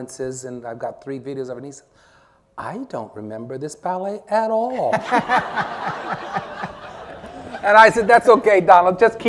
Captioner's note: laughter